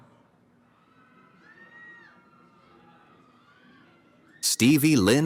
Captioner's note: cheering